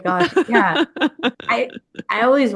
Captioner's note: laughs